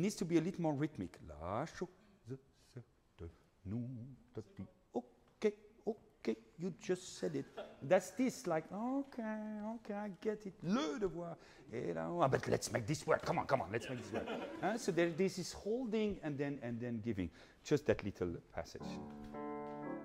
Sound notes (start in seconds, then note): 10.9 speaking in foreign language